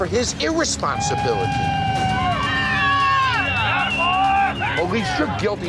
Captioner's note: cheering